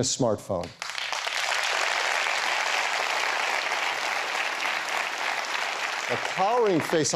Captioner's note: applause